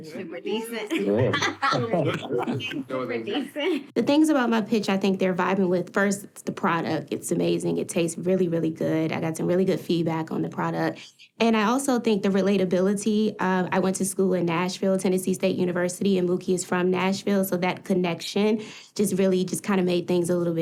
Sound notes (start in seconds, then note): 0.8 chuckling; 3.9 laughing